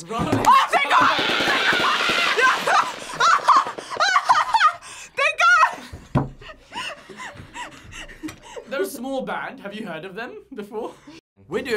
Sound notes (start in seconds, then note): 0.4 screams; 1.6 laughs; 6.5 laughs